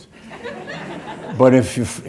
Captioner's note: audience laughing